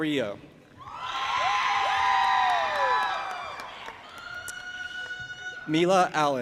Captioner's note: audience applauding and cheering